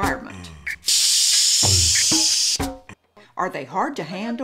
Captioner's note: bike hisses